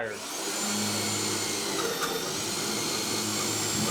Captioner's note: drilling noises